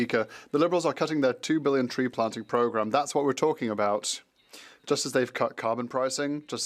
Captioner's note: speaking French